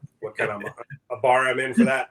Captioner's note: laughs